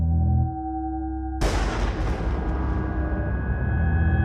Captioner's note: dramatic, echoing bell tone; thunder rumbling